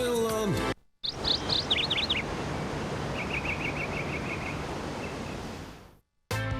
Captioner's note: bird singing; energetic music